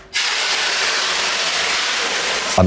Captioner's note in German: Zischen